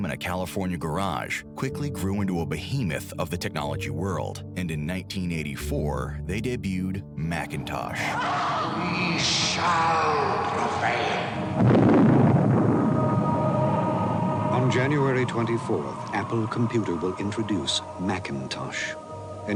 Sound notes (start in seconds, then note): 8.4 actress grunts; 11.5 screen booms